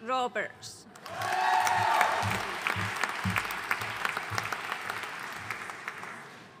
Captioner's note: audience cheering and applauding